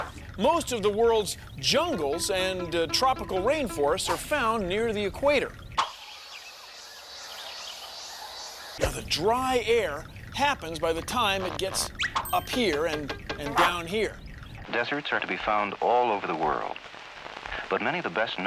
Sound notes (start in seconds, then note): 5.9 birds chirping